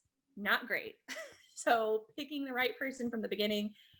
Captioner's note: chuckle